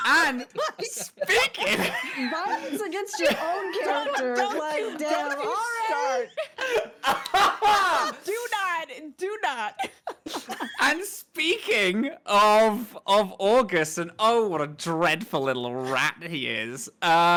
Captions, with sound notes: - What are we speaking? - Violence against your own character like Dare to Start. (all laughing) - Do not, do not. - I'm speaking of Auguste and oh, what a dreadful little rat he is.